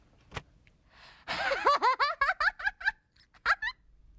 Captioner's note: laughs